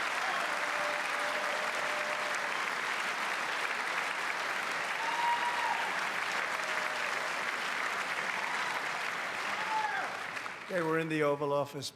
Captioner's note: applause